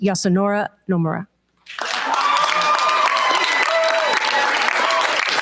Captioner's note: cheers, applause